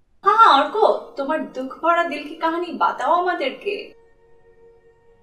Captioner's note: in Hindi